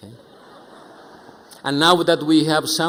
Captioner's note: audience chuckling